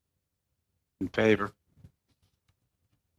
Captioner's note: speaking French